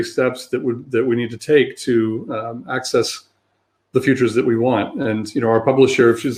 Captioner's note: erm